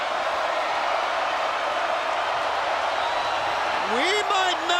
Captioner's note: crowd cheering continues